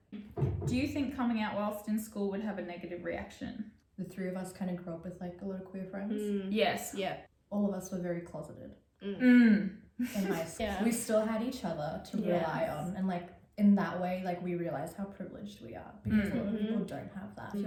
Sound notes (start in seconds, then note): 10.0 laughs